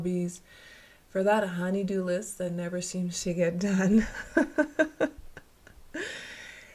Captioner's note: laughter